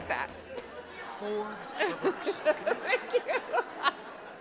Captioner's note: audience laughs